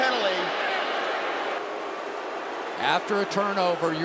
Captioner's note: crowd booing